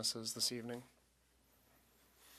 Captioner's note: speaking French